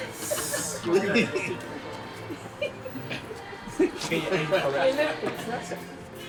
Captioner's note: all laughing; all chattering